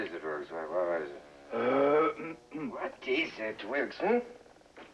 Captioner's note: clears Throat